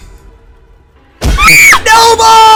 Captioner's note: screams